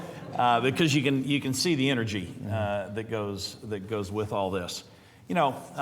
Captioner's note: laughter